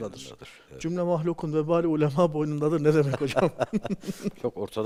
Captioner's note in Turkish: kahkaha